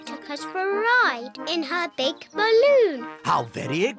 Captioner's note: oinks